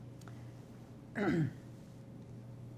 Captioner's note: clears throat